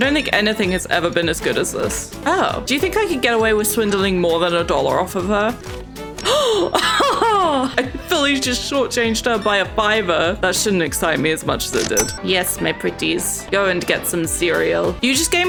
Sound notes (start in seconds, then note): 6.2 gasps; 6.7 laughs